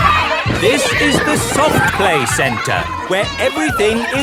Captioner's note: loudly over shouting